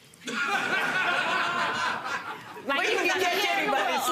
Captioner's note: courtroom laughing